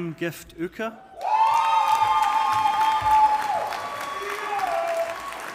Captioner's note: audience applauding